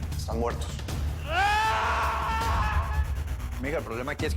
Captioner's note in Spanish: Grito